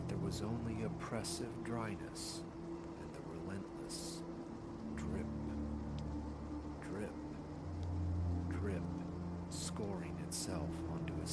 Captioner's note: drip... drip... drip